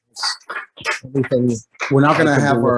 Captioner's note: applause